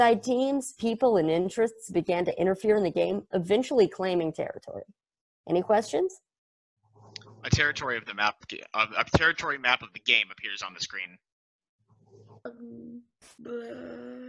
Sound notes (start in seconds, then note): 7.2 slight pause